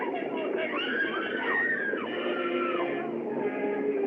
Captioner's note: screaming